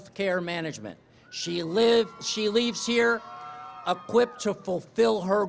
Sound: cheering

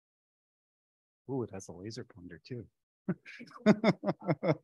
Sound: laughs

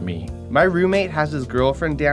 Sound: voiceover

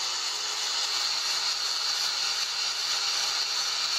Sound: none

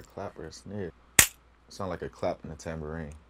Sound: mouse trap snaps

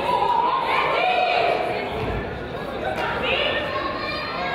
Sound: crowd chatters

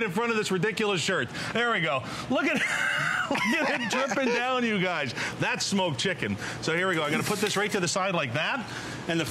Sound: laughter

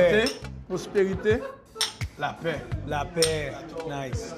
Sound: toasting in Haitian Creole

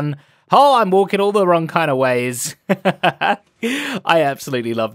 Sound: laughs

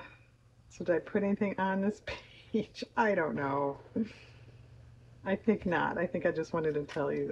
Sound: laughs

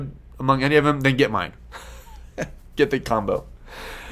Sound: laughs

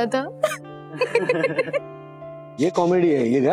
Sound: laughing

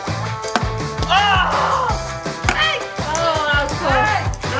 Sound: groans

